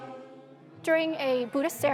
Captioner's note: praying and chanting